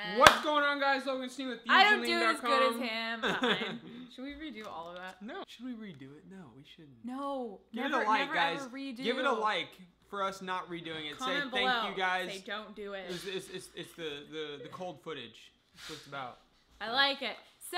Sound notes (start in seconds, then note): 0.1 loud clap; 3.2 laughing